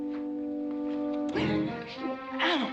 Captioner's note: gasping